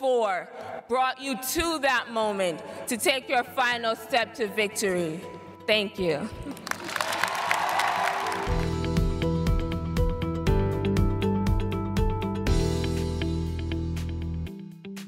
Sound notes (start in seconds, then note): 8.8 cheers and applause